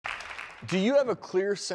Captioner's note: audience applause